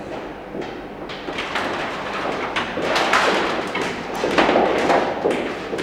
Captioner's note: echoing footsteps